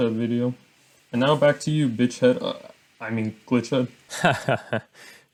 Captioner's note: stammers